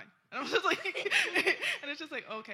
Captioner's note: laughter